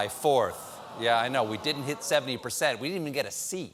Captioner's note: audience reacts